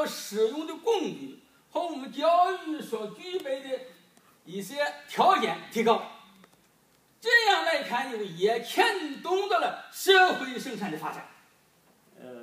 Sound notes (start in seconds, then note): none